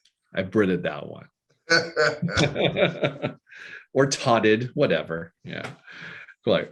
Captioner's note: laughing